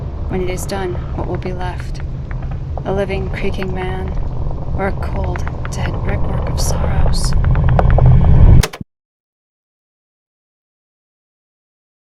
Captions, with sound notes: When it is done, what will be left? A living, creaking man, or a cold, dead brickwork of sorrows? [FX GETS LOUDER & CUTS OFF ] [TAPE RECORDER CLICKS OFF]